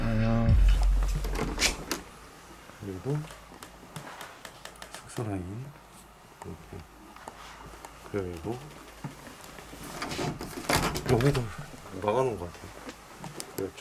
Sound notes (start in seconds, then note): 0.8 the sound of turning the doorknob; 3.6 creak